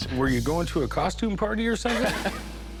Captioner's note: laughs